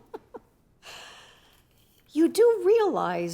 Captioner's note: laughing; inhales deeply